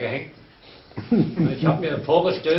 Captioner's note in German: lacht